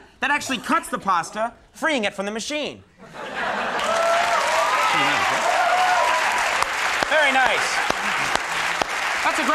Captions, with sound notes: That actually cuts the pasta, freeing it from the machine. (crowd applauds) Very nice. That's a great invention.